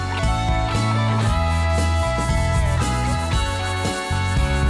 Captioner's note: rock music; brush scraping